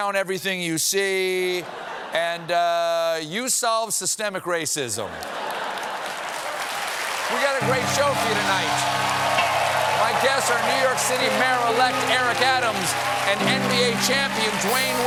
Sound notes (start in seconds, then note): 5.1 laughter; 6.2 applause